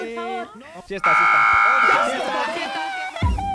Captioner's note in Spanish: Bullicio